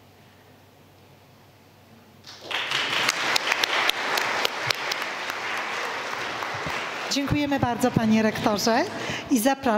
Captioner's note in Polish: oklaski